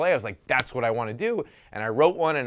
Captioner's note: slapping hands